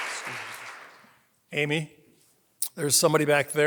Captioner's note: applause